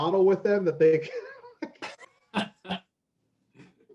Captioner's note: laughs